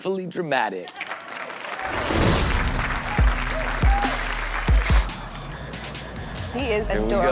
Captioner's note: crowd cheers; hip Hop music